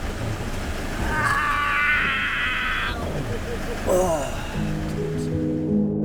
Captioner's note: screaming in pain